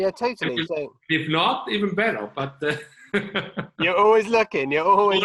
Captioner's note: chuckling